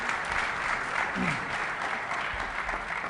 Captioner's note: applause